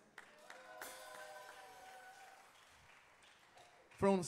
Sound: audience cheering

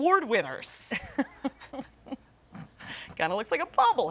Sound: laughing

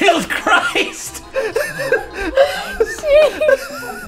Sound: laughter

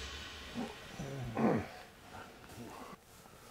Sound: dad groans

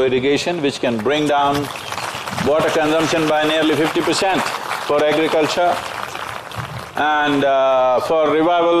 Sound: applause

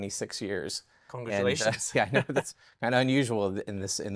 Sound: chuckles

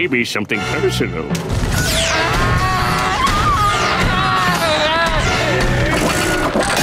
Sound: screaming

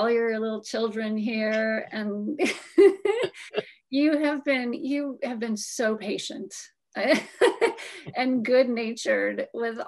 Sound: laughs

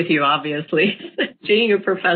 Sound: laughs

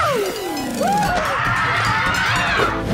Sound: screaming

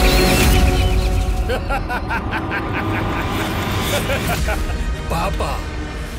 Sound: villainous laughter

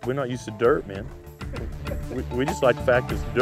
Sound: laughter

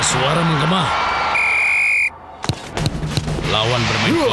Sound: whistle blowing

